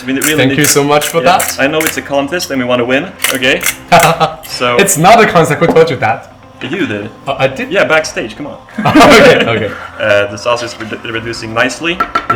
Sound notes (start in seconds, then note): 3.9 laugh; 8.7 laugh